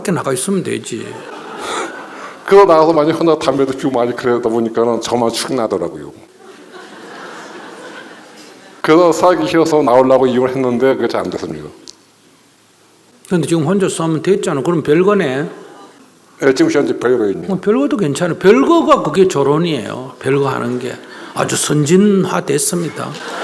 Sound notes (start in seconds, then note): 6.3 audience Laughter